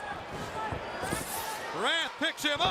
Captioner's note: crowd chatter